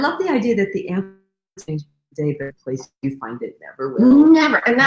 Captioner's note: radio interference drowns out speaker